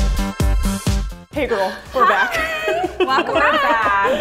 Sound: laughs

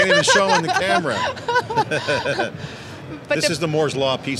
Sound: laughing

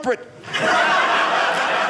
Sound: audience laughing

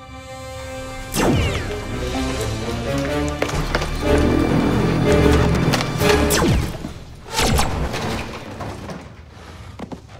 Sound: laser fire

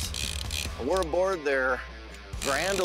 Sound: fishing reel zinging

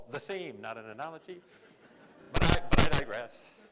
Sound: laughter

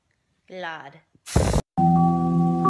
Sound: sprays

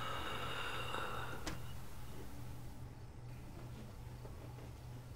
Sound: door creaking; wheezing inhalation

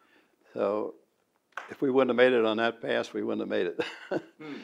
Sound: laughs

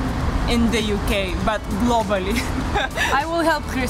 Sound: giggling

